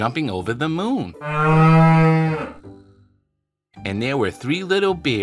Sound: cow mooing

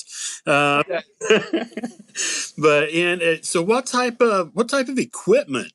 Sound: laugh

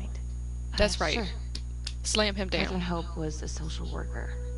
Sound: claps hands twice

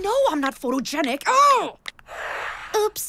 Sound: wooshing sound

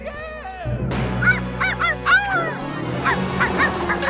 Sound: barking

